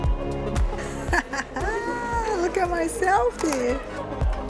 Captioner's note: laughs